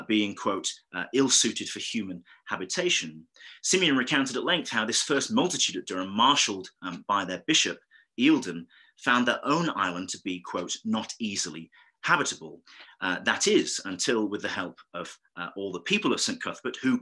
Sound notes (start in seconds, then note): none